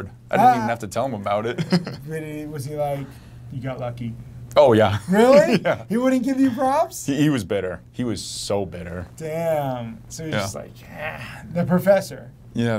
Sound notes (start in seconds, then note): 1.5 chuckles; 5.0 laughs